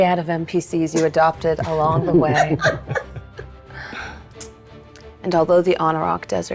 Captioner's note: players laughing